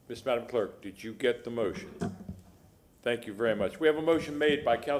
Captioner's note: sounding gavel